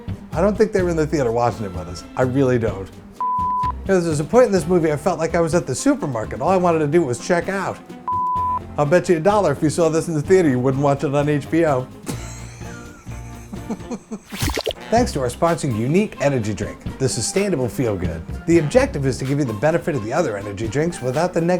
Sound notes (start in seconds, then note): 12.0 laughs